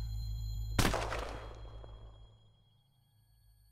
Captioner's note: gunshot